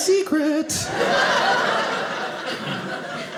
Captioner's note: audience laughing